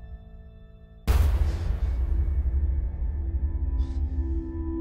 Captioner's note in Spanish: Respiración agitada